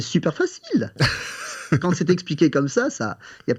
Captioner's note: laughs